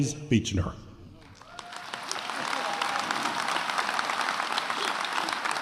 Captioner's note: attendees applauding